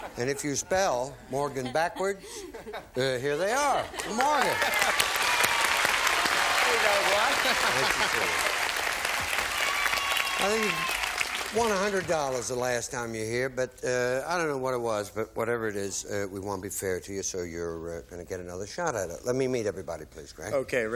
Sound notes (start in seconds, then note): 6.0 applause